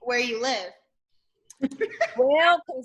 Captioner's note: laughs